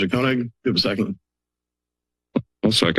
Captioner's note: silence